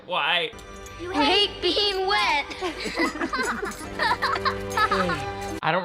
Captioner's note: laughing